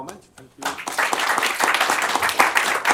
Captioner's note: applause